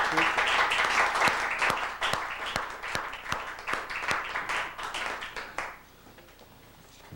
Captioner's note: applause